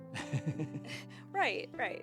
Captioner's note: laughing